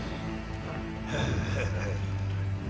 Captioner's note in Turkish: Gülme sesi